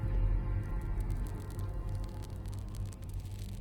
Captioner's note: cigar crackles